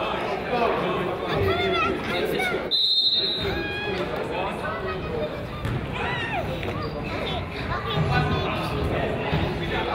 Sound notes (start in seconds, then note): 2.6 crowd chatters; 2.7 whistle blows